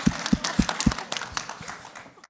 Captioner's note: applause